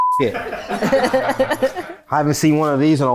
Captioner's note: everyone laughs